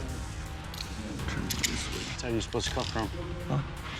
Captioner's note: muttering